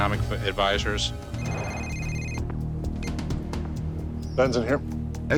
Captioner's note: phone rings